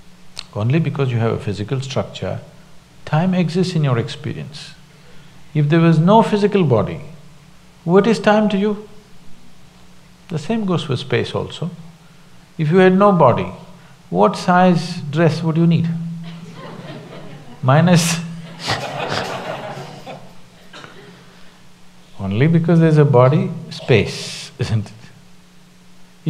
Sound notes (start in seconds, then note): 16.2 laughter